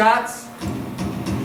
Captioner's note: bang